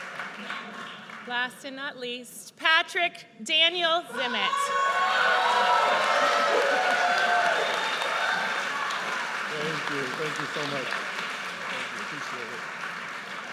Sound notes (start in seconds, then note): 5.2 audience cheers